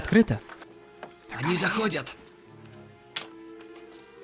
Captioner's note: whispering